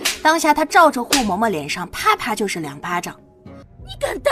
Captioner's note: slap